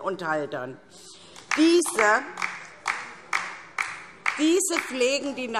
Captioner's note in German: Beifall DIE LINKE